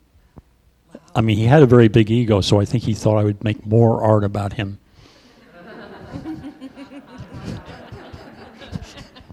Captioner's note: laughter